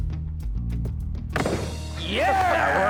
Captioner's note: gunshot